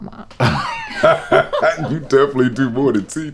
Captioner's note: laughing